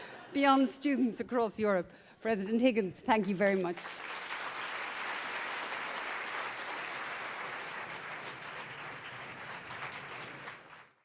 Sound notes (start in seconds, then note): 0.0 crowd Laughs; 4.1 crowd Clapping